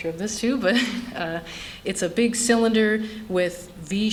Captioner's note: laughter